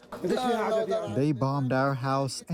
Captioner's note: through translator